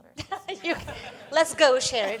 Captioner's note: laughter